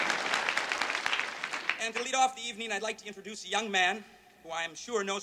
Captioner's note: applause